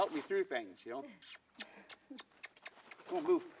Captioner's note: kissing calls